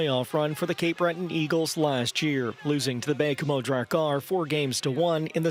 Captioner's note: cheers and Applause